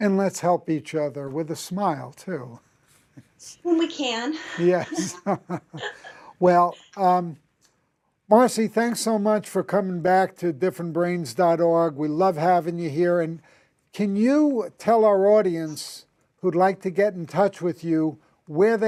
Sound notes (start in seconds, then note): 4.4 chuckles